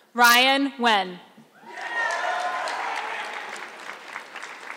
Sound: audience clapping

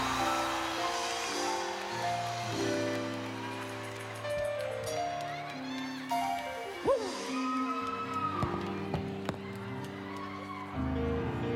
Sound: applause

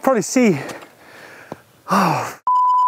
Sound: breathes heavily

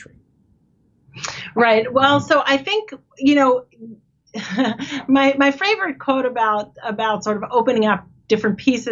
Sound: chuckles

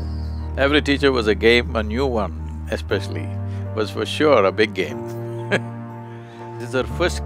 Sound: laughs

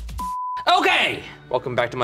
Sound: electronic music; beep

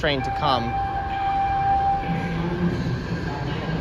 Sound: announcements bell dinging

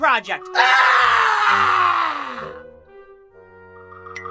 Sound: toby howls like a dinosaur; cartoony eye blink

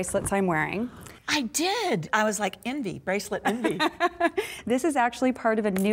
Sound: laughter

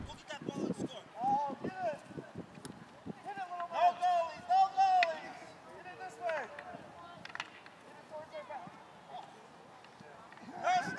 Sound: talking and cheering

